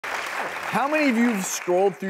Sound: clapping

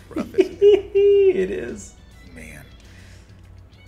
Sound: laugh

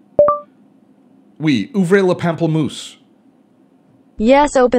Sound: speaks in foreign language

